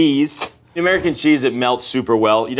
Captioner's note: plastic rips